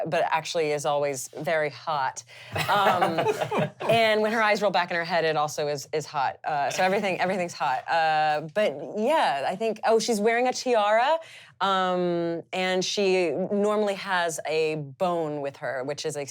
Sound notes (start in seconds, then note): 2.5 laughing